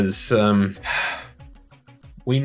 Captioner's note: tired sigh